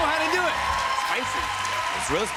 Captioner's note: cheers and applause